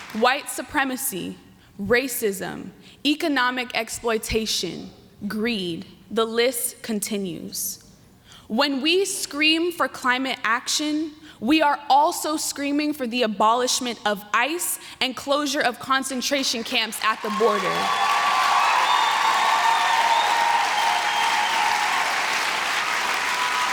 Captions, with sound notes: white supremacy, racism, economic exploitation, greed, the list continues. When we scream for climate action, we are also screaming for the abolishment of ICE and closure of concentration camps at the border. [APPLAUSE]